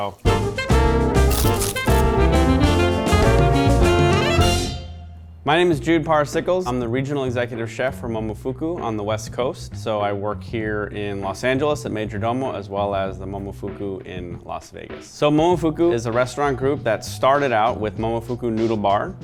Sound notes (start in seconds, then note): 0.1 upbeat jazz music; 1.2 crunches